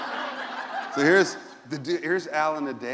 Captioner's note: laughter